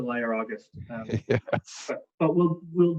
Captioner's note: laughs